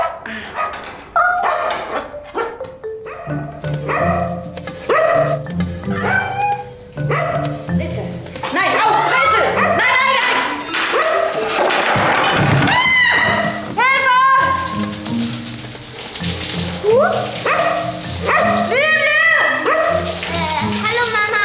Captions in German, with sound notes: (Hund bellt.) Bitte, nein, aus. Brezel. Nein, nein, nein! (Geklapper) (Schrei) Hilfe! Huh! (Hund bellt.) - Lilie! - Hallo, Mama!